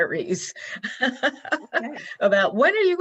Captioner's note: laughs